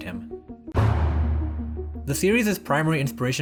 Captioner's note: boom